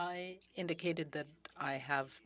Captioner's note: speaking in french